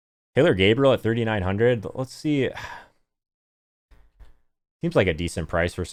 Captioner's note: exhales